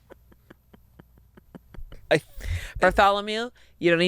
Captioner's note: chuckling